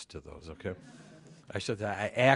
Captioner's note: laughter